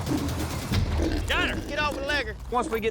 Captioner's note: hog snorting